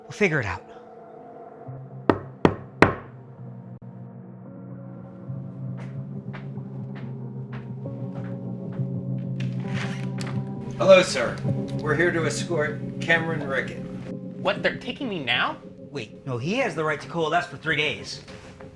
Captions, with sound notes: We'll figure it out. (knock at the door) (tense music) Hello, sir. We're here to escort Cameron Rickett. What? They're taking me now? Wait. No, he has the right to coalesce for three days.